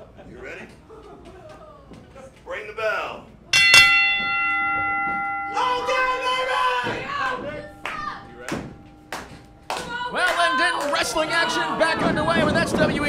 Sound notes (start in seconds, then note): 3.5 bell rings; 5.5 crowd shouting